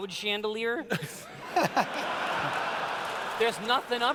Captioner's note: laughter